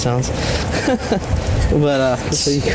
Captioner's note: laughing